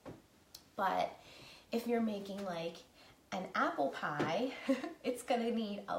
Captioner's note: laughing